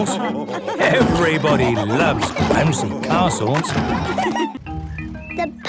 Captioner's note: laughter